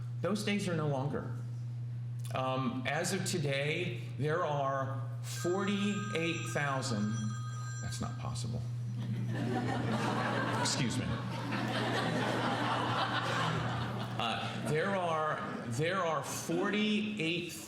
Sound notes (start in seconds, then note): 11.0 laughing; 11.3 phone ringing